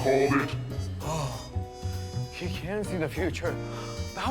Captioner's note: gasps